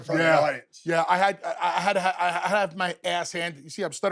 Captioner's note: stutters